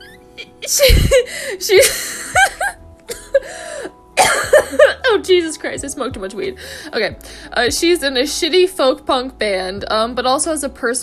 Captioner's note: coughing